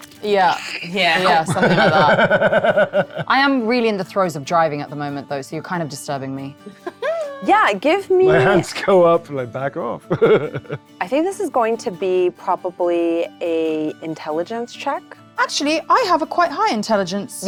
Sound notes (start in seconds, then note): 1.3 cackling; 10.1 chuckles